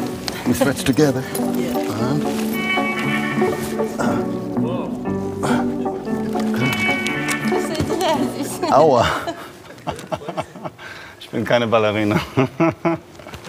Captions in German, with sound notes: Let's stretch together. (Stöhnen) Aua. (lacht:) Ich bin keine Ballerina.